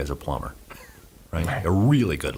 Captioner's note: he laughs